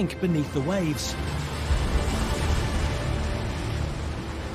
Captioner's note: water splashing